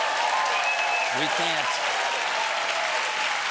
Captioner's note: cheers and applause